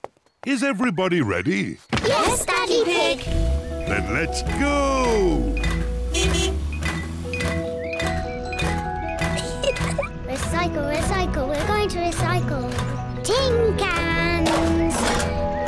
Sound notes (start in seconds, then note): 5.7 horn honks; 9.3 giggles; 14.4 cans rattle